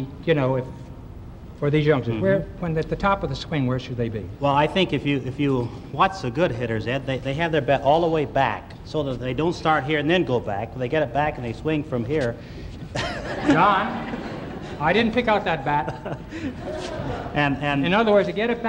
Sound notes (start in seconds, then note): 12.8 laughs